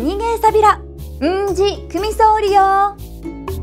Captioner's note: in Okinawan